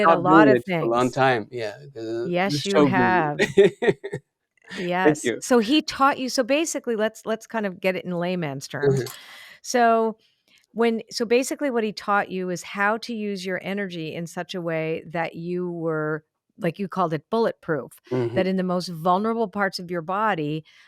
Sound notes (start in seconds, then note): 0.0 laughs